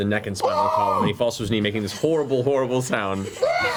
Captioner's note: muffled scream